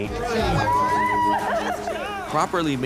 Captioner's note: cheering